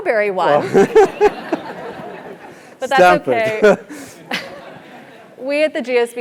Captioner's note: laugh